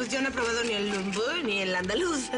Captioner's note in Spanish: Habla en francés